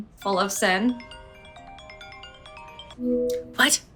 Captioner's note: phone rings